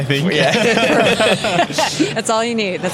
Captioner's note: laughter